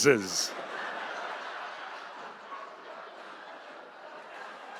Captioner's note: audience laughing